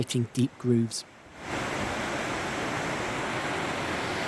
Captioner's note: sound of rushing water